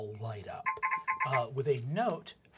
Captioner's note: sound of electronic chirping